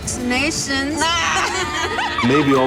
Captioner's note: laughing